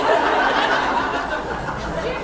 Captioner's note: laughs